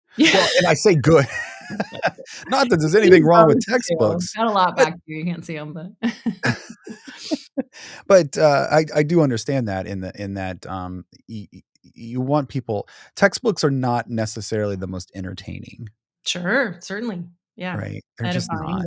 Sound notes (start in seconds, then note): 0.2 chuckling; 6.4 both chuckling